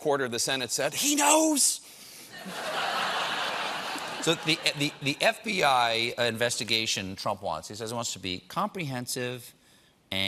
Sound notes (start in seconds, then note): 5.3 laughter